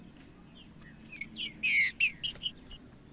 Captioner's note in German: trinca ferro cantando